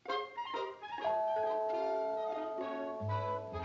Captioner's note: doorbell ringing